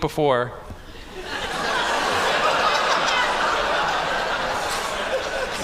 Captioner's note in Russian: Смех